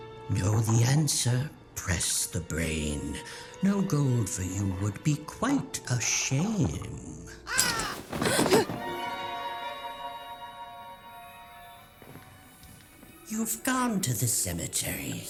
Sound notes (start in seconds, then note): 8.0 gasp